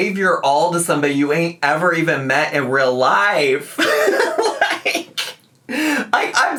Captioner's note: laughs